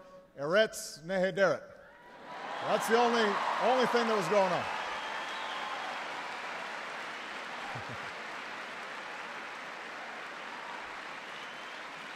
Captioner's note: applause